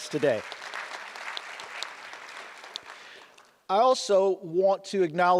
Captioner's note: audience applause